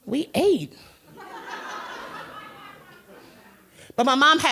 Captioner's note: crowd laughter